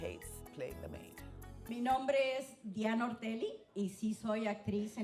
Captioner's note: speaking Spanish